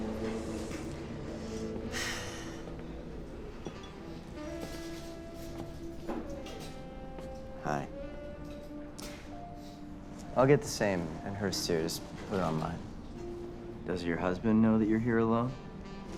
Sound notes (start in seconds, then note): 1.9 sigh